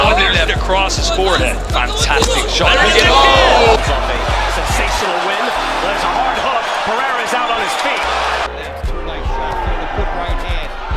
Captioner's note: crowd cheering